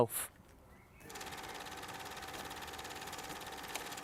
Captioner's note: camera whirrs